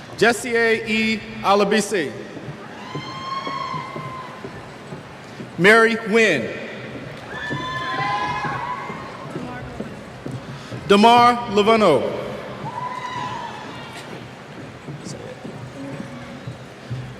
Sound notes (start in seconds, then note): 7.3 cheers